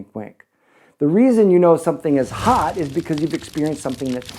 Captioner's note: fire crackling